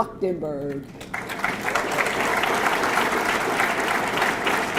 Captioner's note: audience clapping